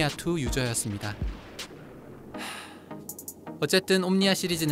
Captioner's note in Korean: 한숨